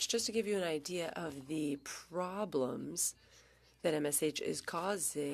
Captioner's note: speaking French